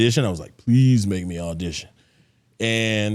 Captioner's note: none